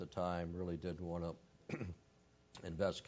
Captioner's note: cough